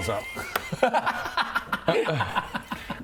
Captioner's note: thankful-it's-not-me-this-time laugher